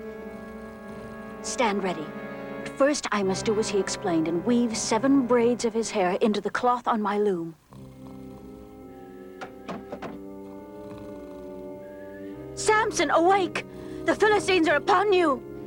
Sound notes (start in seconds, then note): 9.4 wood knocking wood